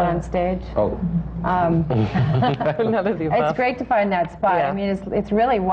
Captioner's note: laughter